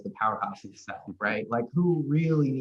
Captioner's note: laughing